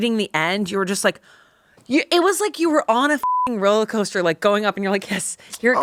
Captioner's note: beep